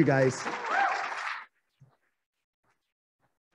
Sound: applauding

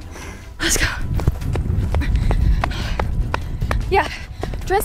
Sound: footsteps them running

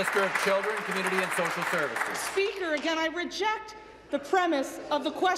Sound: applause

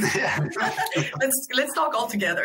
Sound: laughing

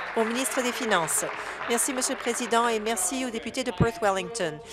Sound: applause

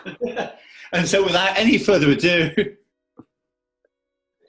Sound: chuckling

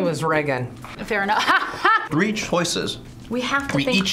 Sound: laughs

